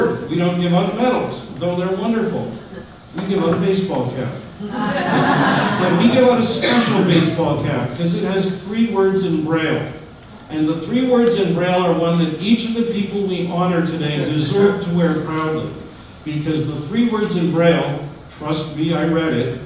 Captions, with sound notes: we don't give out medals, though they're wonderful, we give out a baseball cap. [audience laughter] But we give out a special baseball cap 'cause it has three words in Braille. And the three words in Braille are ones that each of the people we honour today deserve to wear proudly. Because the three words in Braille, trust me I read it,